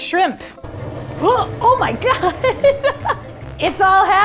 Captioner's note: gasps; laughing